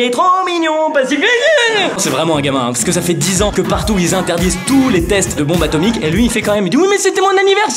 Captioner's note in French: Cri de peur